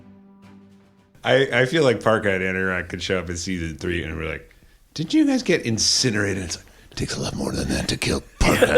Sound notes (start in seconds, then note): 0.0 finale music; 6.2 in Anorak’s voice; 8.4 all laugh